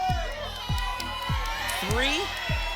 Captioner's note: audience shouting numbers